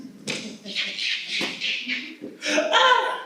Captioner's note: laughs